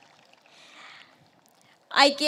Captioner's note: applause